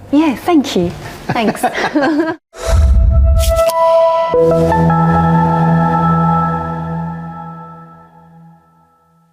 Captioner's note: laughs; electronic music